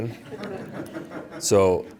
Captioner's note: laughter